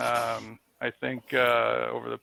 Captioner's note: laughs